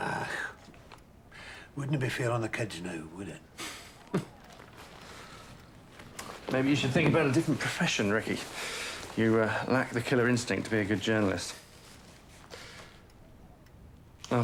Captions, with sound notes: Ah, wouldn't be fair to the kids now, would it? (chuckling) - Maybe you should think about a different profession, Ricky. You lack the killer instinct to be a good journalist.